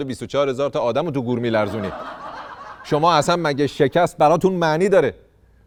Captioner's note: laughter